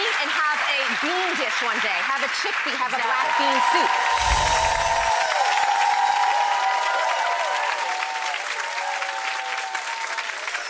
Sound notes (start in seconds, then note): 2.9 audience cheering; 4.0 audience applauding